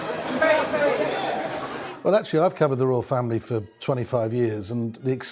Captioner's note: crowd screaming